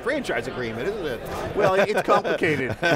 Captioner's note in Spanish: Risas